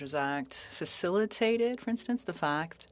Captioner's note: speaking French